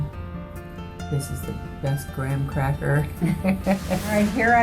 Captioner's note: laughs